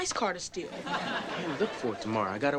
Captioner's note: audience laughing